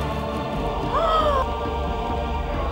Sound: gasps

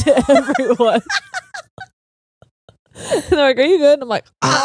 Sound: cackles

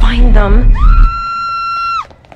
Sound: screaming

